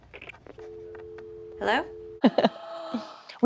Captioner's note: dial tone